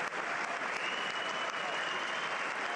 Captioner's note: applause